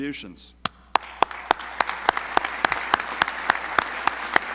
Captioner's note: crowd applauding